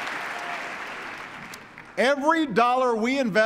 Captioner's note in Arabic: تصفيق